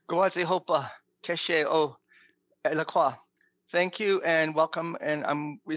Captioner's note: speaking Native language